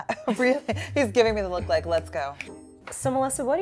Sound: snaps

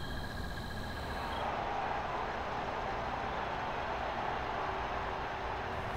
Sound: crowd cheers on television

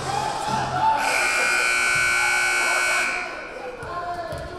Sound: buzzer buzzing; crowd chattering

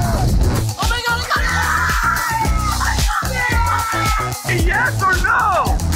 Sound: screaming

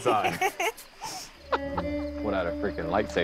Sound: laughing

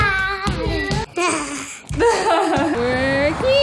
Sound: laughing

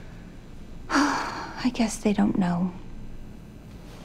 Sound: sighs

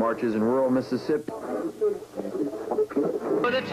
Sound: switching through radio stations

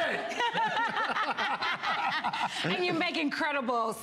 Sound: laughter

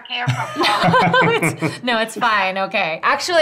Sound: laugh

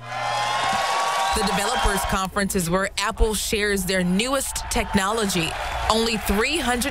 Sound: applause

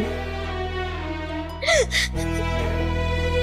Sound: sobbing

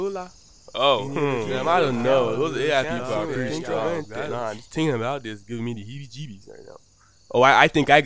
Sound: murmuring

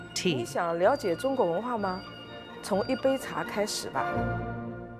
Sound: speaking Chinese

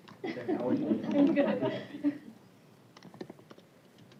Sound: laughter

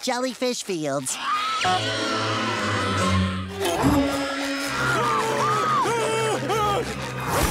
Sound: screaming

